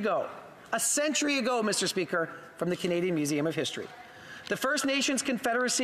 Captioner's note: speaking indigenous language